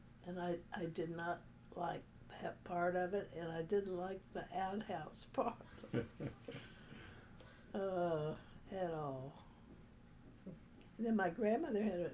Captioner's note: laughter